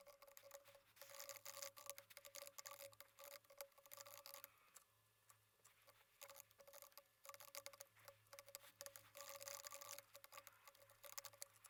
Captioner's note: typing sounds